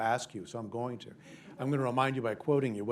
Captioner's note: laughter